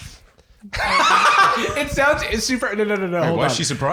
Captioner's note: laughs